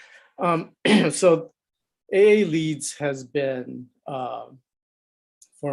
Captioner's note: cough